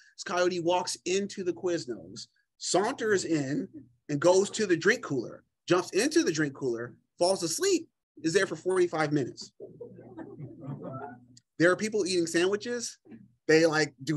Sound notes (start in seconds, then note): 9.6 laughter